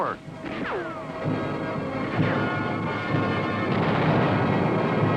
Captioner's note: bullets ricochet; artillery blasting